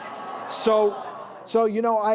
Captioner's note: laughter